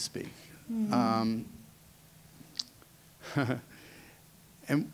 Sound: chuckle

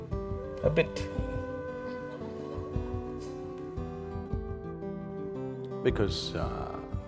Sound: laughs

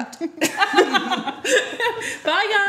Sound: laughing

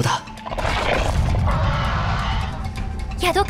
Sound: Speedosaurs Roaring

